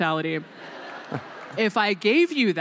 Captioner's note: laughter